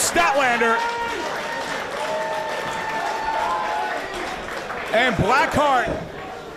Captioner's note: applause